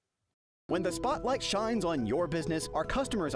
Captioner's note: voiceover